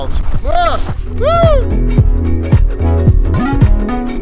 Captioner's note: whoops loudly; upbeat music